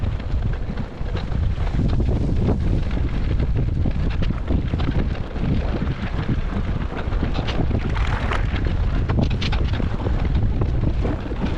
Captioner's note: wind blowing